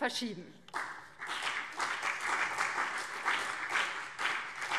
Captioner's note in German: Beifall BÜNDNIS 90/DIE GRÜNEN und CDU